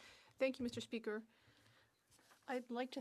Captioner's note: speaking French